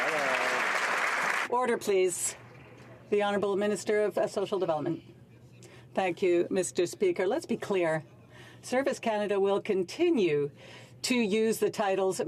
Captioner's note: some Applause